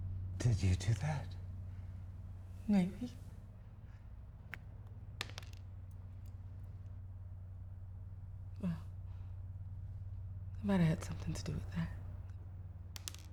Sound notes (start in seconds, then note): 5.2 button pops and clatters